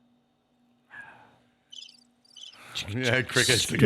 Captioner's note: cricket chirping